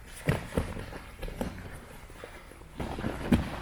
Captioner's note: stomping; fabric rustling